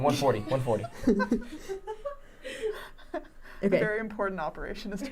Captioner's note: laughing